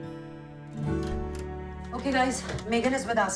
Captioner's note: door opens